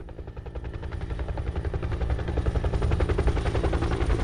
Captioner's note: helicopter whirring